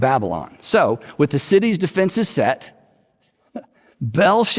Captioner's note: chuckles